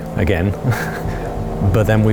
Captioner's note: laughs